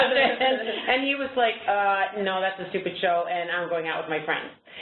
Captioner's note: chuckles